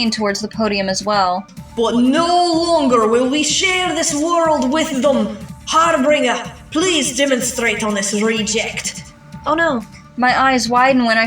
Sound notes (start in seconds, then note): none